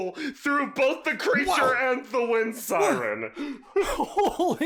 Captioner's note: noises of awe; amazed laughter